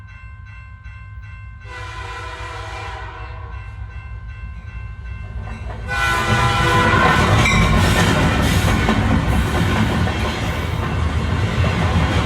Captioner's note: sound Effect: Train and Crossing Bell